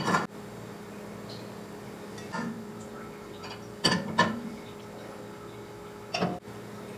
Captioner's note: speaker noise